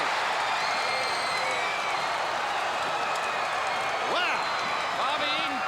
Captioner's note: crowd cheering